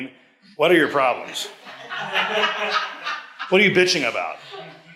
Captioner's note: audience laughs